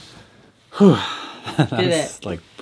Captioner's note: sighing; laughing